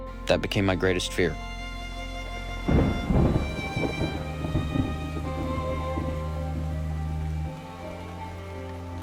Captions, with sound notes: That became my greatest fear. (thunder rumbling) (melancholic music continues)